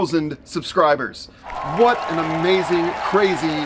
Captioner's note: audience cheering